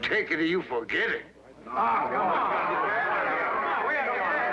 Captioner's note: overlapping angry chatter